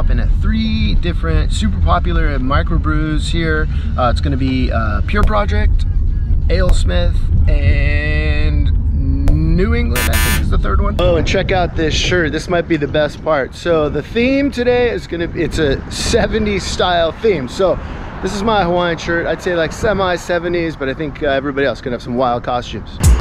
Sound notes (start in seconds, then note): 9.9 wrong answer buzzer